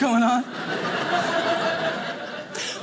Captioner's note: audience laughing